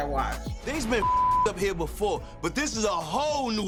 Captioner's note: beep